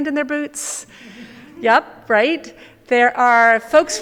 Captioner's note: audience chuckle